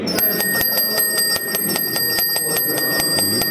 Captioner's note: Klingeling